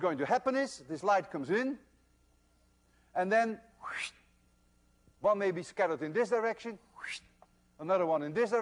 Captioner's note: wssshht